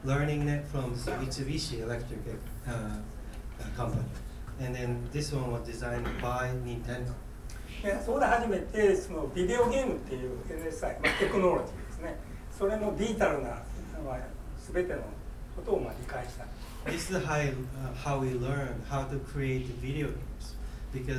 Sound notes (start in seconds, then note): 7.9 speaking in foreign language; 11.0 coughing